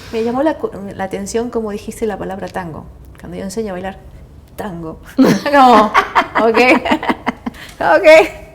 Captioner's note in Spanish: risas